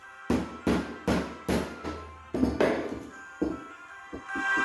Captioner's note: hammer banging; christmas music playing